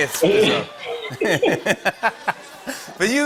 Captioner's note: laughter